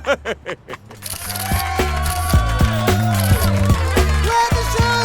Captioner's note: laughing; cameras snapping; crowd cheering